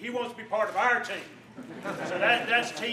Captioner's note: laughter